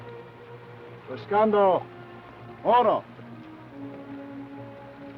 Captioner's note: Chief speaks foreign language; speaks foreign language